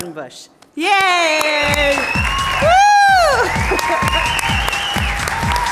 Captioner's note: audience applauding